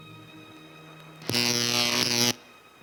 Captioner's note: buzzer